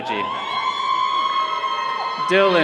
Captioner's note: all cheering